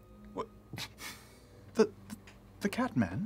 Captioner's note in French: renifle